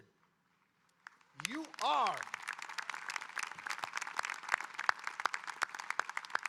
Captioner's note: audience applauding